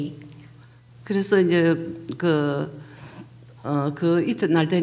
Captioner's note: speaking foreign language